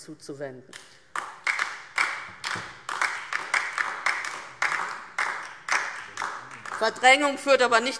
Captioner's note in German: Beifall DIE LINKE